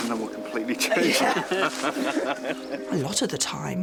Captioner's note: all laugh